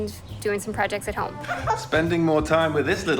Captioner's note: child giggles